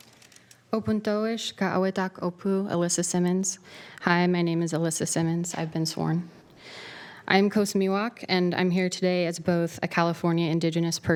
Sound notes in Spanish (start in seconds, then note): 2.4 hablando en otro idioma